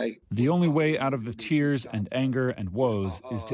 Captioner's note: through translator